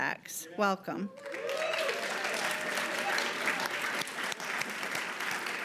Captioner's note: audience applauds